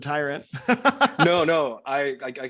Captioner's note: laughs